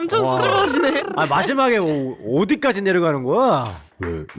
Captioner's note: excavator voice